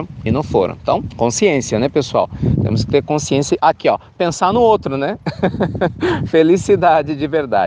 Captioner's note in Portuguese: risos